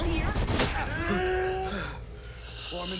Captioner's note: inhales sharply